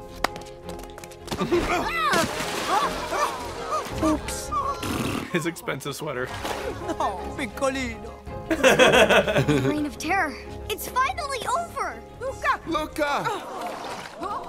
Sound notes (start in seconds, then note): 1.3 splash